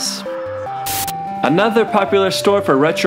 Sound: static

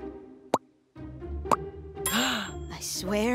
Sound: gasps

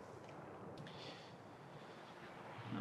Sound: he sighs

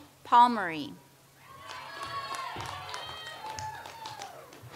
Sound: audience applauds

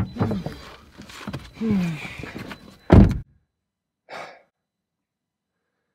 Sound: let's out a sigh

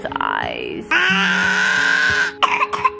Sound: babbles; coughing

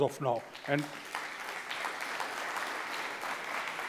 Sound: applause

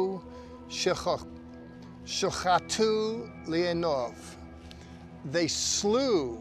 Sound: speaking in Hebrew

